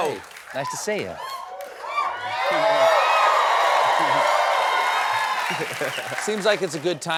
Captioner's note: cheers and applause